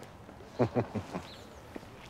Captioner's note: laughter